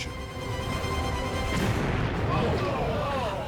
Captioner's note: explosion blasting